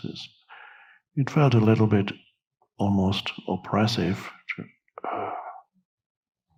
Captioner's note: sighs